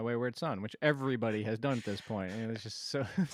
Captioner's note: laughs